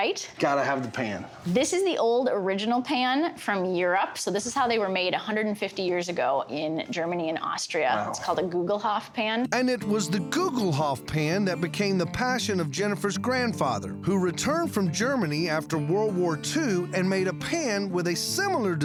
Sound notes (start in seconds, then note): none